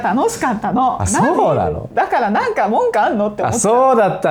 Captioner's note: laughs